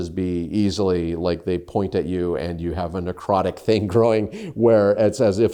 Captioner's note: chuckles